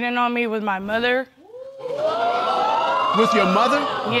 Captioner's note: audience exclaiming